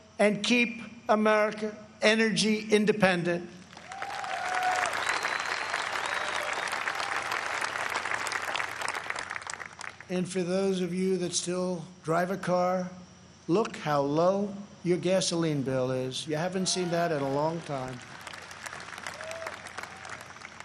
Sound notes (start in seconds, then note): 8.1 applause